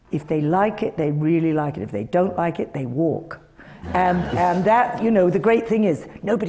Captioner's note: laughter